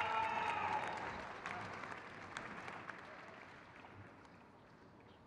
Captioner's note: crowd cheers